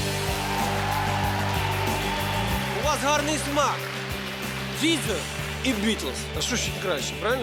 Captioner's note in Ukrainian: оплески